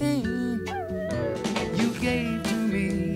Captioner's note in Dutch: Hond jammert